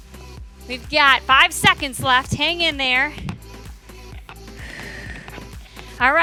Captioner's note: exhales